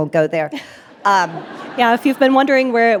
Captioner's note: audience laughing; laughing